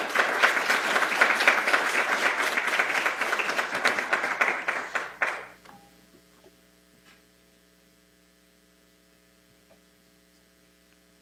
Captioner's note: applause